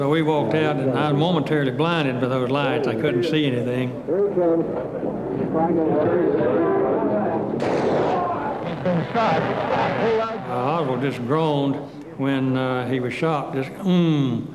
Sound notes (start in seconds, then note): 7.6 gunshot